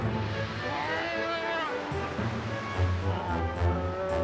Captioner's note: bear growling; light orchestral music